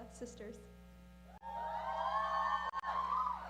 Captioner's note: cheering